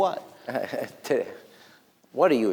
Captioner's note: chuckles